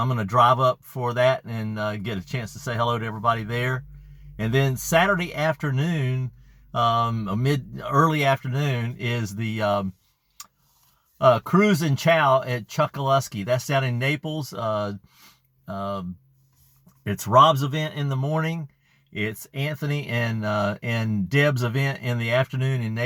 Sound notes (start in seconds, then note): 10.0 um uh